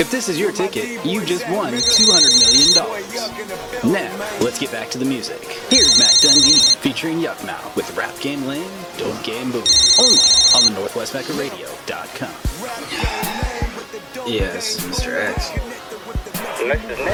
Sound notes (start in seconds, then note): 9.6 phone ringing; 13.2 rap music on radio